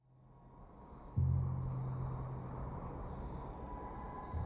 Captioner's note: insects chirring